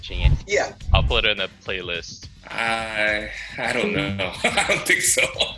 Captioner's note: laughs